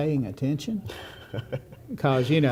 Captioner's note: laughter